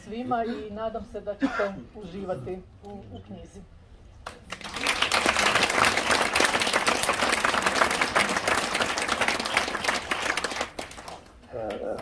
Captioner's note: applause…